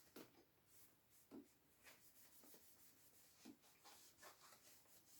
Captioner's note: cloth rubbing